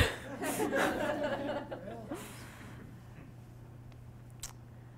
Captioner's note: audience laughing